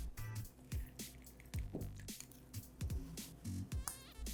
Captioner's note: lemon juice drips